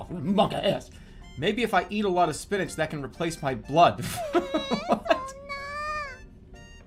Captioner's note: laughing